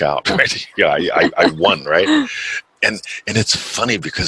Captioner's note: laughs